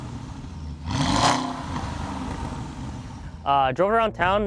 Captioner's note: engine revving